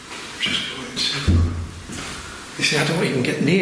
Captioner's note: loud thumping